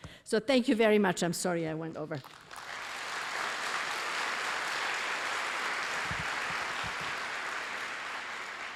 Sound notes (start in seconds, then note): 2.2 applause